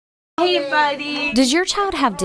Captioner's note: nats: children playing